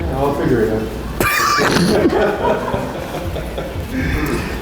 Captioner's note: laughing